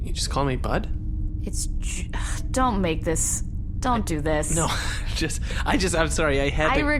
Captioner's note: laughs; sighs